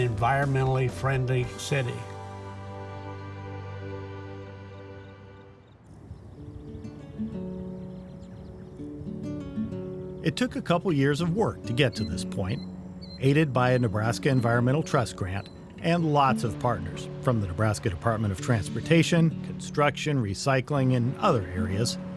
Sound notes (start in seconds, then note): 2.2 upbeat music; 5.3 insects chirping; 6.2 gentle music